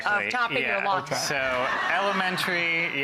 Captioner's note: audience laughing